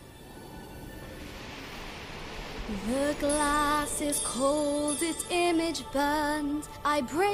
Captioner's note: magical whirring sound